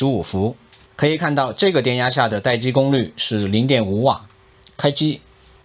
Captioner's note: static